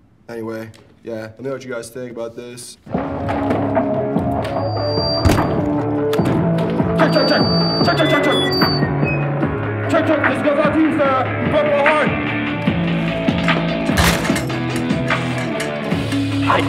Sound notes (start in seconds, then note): 3.4 dark metal music; 5.1 feedback squealing; 13.8 chair crashing